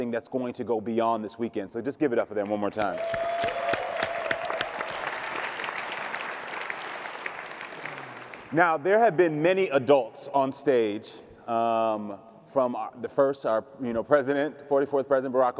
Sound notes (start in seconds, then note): 2.5 audience clapping and cheering